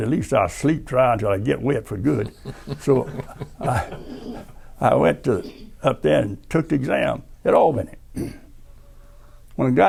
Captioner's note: laughter